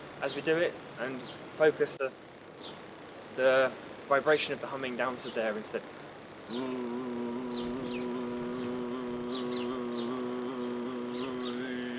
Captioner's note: humming